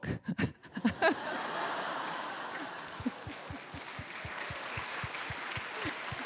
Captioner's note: crowd laughing; crowd clapping